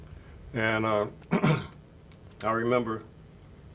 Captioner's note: clears throat